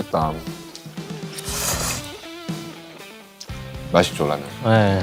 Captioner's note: slurp